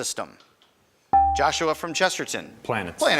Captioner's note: buzzer chimes